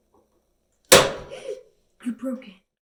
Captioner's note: crack; gasp!